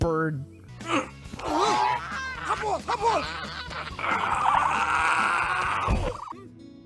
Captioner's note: ostrich noises and struggling